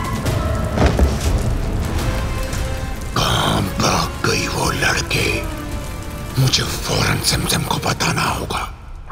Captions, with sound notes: [thud] 'Where did the girl disappear?' 'I have to inform Simsim immediately!'